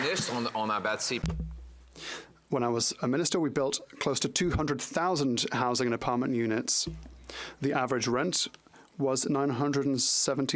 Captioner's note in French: applaudissements